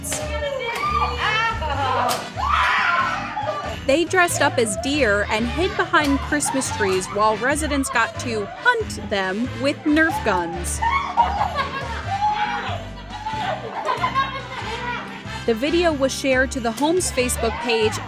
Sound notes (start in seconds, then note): 0.4 laughing, screaming; 10.9 laughter